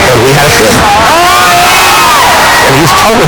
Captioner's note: crowd cheering loudly